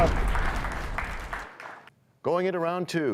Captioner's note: crashing sound